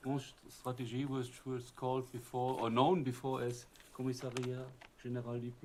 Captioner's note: french